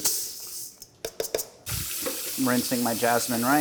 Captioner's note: tapping